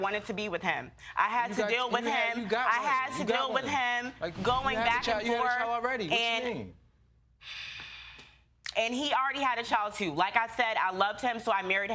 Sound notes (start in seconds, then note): 6.4 sighs